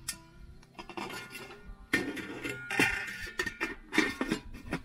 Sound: lid clangs

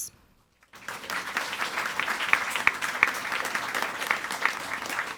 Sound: audience applauding

